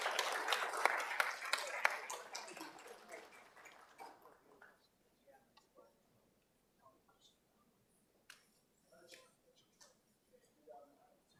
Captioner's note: applause